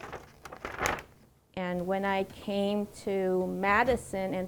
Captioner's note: paper rustles